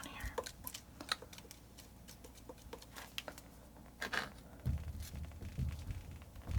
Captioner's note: tapping